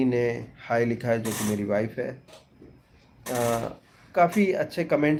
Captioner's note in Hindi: नाक से की जाने वाली आवाज़